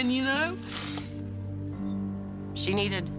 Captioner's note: sniffles